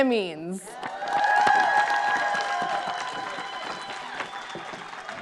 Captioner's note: audience cheering